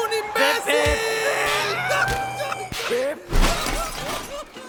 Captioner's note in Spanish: Sonidos de auto fuera de control